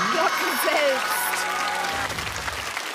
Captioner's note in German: Applaus